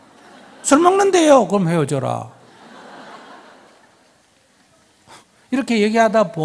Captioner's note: audience laughs